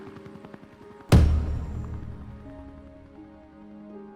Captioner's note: stamp thuds